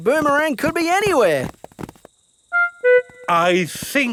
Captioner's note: none